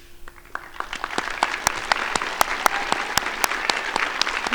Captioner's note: crowd applauding